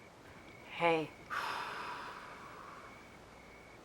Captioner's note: sighs